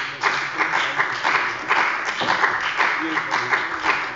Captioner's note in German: Beifall bei dem BÜNDNIS 90/DIE GRÜNEN und der CDU